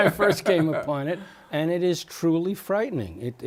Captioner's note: laughter